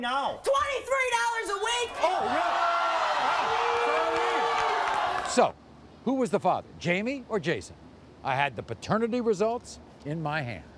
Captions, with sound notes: - $23 a week! (audience reacts) - Oh, sorry! So, who was the father, Jamie or Jason? I had the paternity results in my hand.